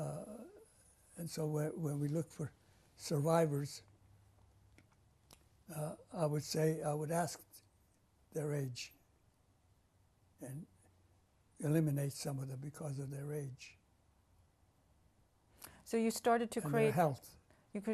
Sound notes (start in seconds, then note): 5.7 pauses for 3 seconds